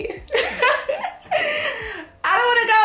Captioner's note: laughs